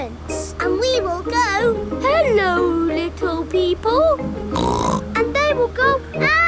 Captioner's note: snorts